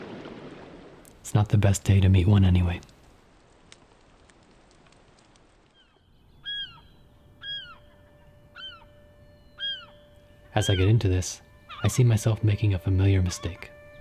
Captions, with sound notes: It's not the best day to meet one, anyway. [bird cawing] [light music] As I get into this, I see myself making a familiar mistake.